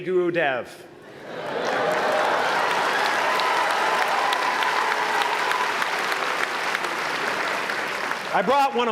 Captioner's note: applause